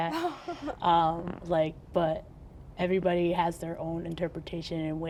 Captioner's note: chuckles